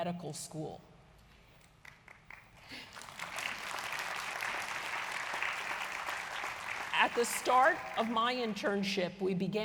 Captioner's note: applause